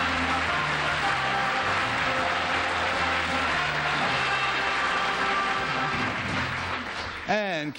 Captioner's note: applause